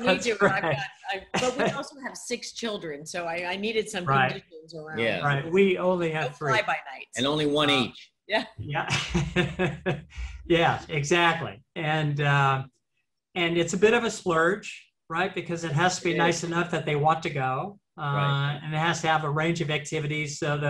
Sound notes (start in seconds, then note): 0.0 laughs; 8.7 laughs